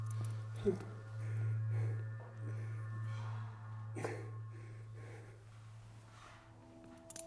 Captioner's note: tense, dramatic music; Lance breathing heavily